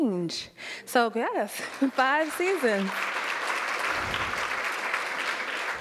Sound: audience clapping

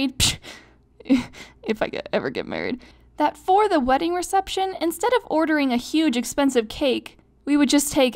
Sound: snickers

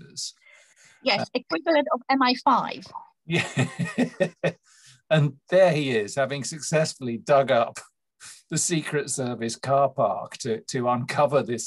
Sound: laughing

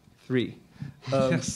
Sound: laughs

